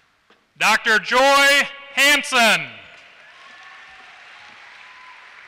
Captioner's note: applause